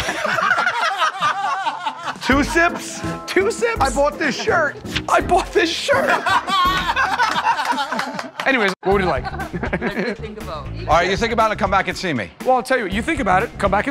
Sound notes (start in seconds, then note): 0.0 laughter; 5.8 laughter